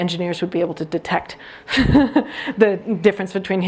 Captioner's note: chuckles